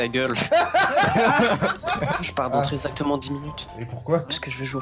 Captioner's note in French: Rigole